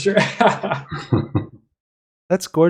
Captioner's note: laughs